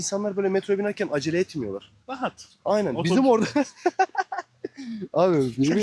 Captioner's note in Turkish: kahkaha